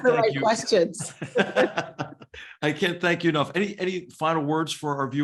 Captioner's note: laugh